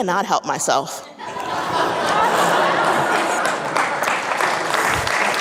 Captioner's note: audience laughing; audience applauding